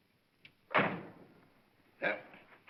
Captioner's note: car door closes